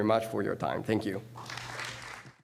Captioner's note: applause